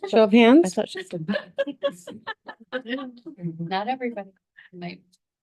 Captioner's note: laughing